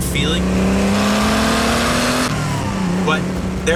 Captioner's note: engine revving